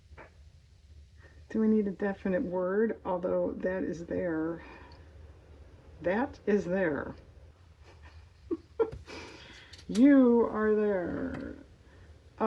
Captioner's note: laughs